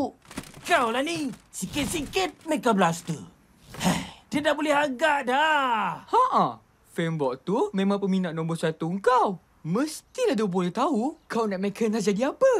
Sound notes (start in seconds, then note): 3.6 sighs